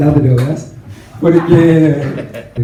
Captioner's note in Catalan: rialles